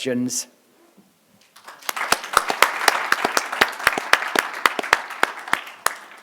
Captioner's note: applause